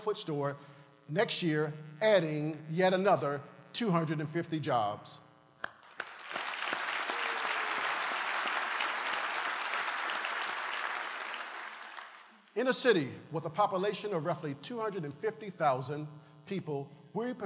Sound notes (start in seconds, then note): 5.6 applause